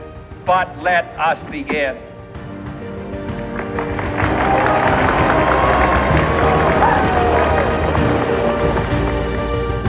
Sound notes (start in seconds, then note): 3.3 applause